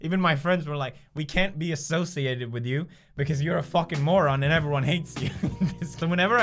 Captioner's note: chuckle